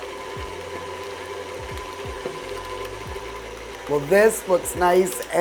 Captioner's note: stand mixer whirring